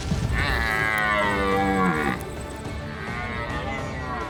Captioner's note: branches breaking; elk calls